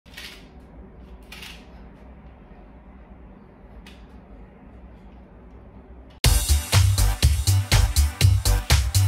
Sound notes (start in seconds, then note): 0.2 weighted hula hoop clicking; 6.2 upbeat music